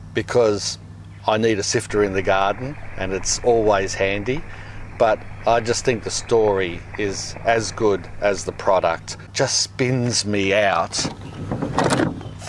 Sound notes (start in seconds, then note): 4.2 water sloshing; 11.0 sifter rattles